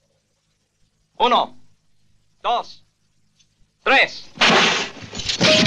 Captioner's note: Spanish spoken audio